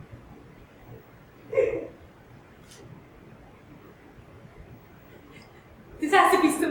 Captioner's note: crying